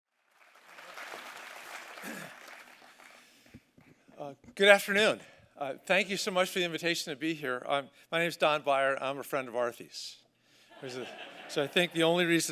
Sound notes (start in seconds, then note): 4.3 applause